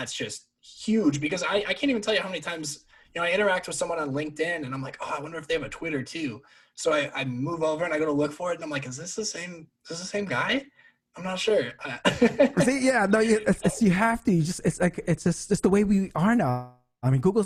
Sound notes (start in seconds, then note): 12.0 laughs